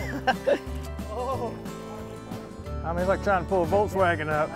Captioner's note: laughing